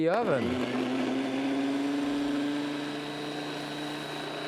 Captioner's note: machine grinding